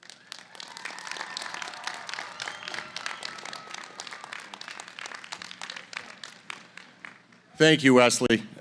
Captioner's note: applause